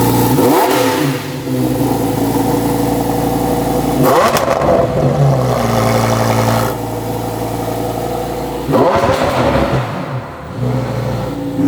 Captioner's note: revving up